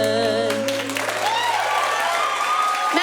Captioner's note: applause